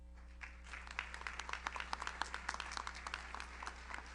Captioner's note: audience applauds